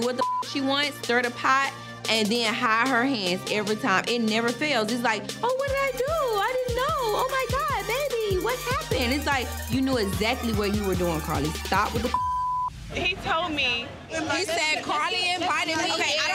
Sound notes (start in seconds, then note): 0.2 beep; 12.0 beep